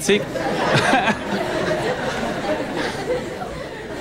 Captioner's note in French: rires